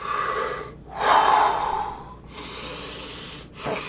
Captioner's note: breathes deeply